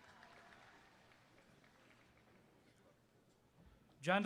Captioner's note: applause